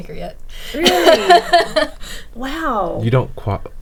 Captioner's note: laughing